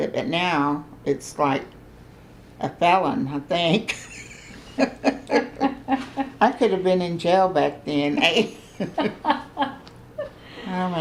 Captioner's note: laughter